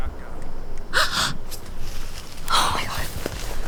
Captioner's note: Jessie gasps